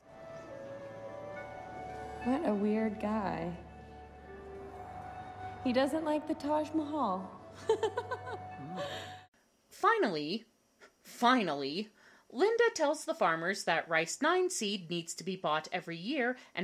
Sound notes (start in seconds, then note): 0.2 gentle music; 7.6 laughs